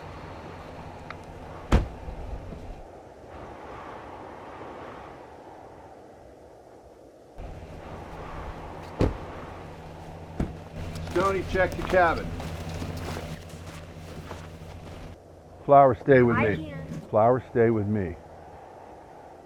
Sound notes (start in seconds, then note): 3.5 wind humming